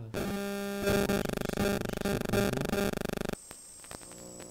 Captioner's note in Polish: zakłócenia